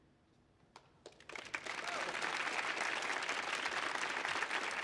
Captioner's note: audience applauds